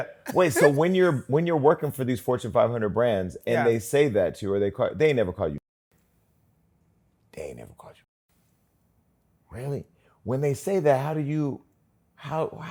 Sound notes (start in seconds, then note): 5.9 muted; 8.5 muted